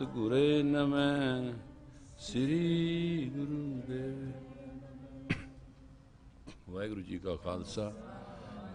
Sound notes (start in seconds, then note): 1.2 Recitação